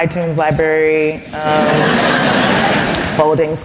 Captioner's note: laughter